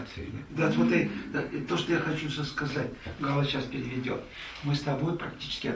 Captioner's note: speaks in the Russian language